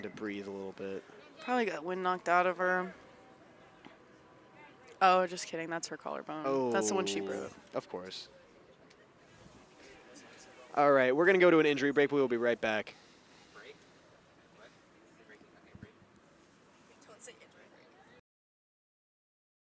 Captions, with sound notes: to breathe a little bit. Probably got wind knocked out of her. Oh, just kidding. That's her collarbone. Oh. That's the one she broke. Of course. All right, we're going to go to an injury break, but we'll be right back. [CHATTER]